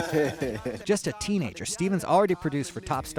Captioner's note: laughter